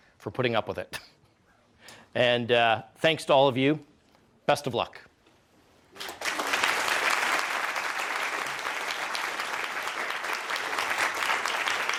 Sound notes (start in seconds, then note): 5.9 audience applause